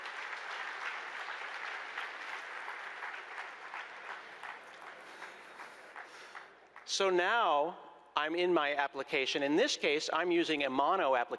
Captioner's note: applause